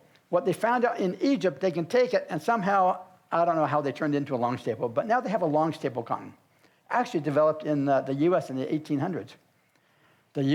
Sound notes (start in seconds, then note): none